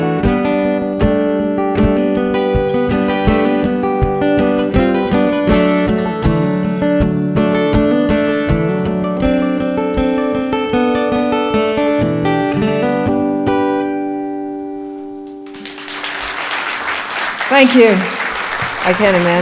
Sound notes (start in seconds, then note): 15.4 applause